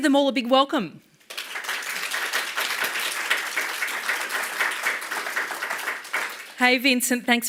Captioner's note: applause